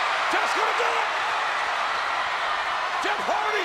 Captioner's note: crowd cheer